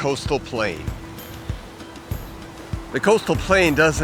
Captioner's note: waves crashing